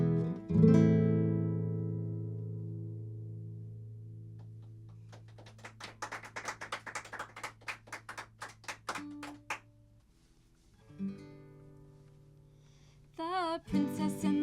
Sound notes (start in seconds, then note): 4.4 applause